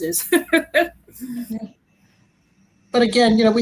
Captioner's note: laughs